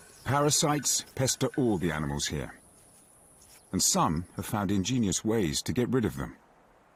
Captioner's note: elephants grunting; water splashing